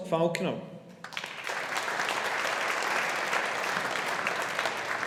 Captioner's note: audience applauding